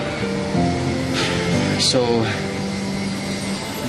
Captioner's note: sighs